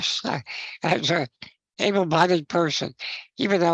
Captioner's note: chuckles